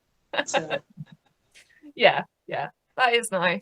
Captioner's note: laughs